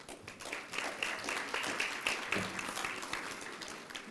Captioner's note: applause